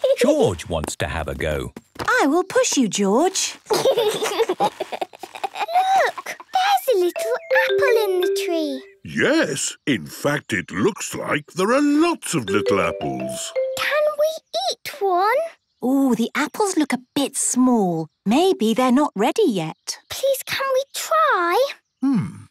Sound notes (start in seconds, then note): 3.7 George giggling